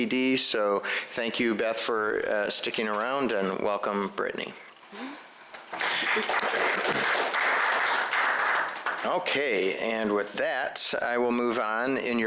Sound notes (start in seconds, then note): 5.7 applause